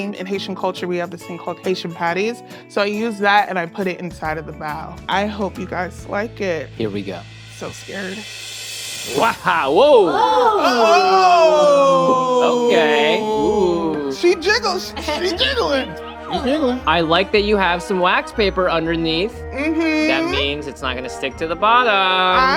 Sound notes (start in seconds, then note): 3.0 reggae music continues; 7.1 cymbal shimmering music; 13.9 lively classical music; 14.9 laughing